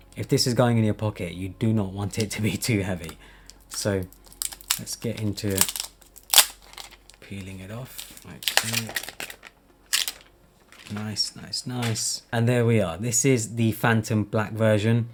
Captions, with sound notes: If this is going in your pocket, you do not want it to be too heavy. So let's get into peeling it off, like so. [plastic rustling] Nice, nice, nice. And there we are. This is the Phantom Black version.